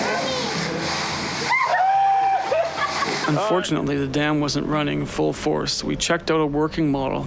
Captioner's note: cheering; screaming